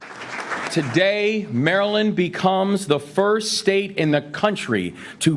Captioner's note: audience applauding